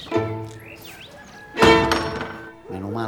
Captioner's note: house door closing